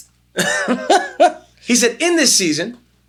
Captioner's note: laughs